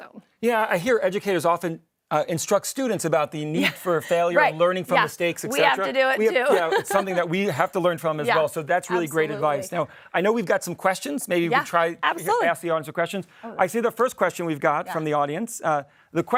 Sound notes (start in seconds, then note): 5.6 laugh